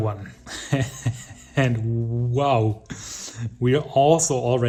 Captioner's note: chuckling